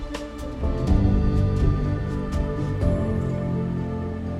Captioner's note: siren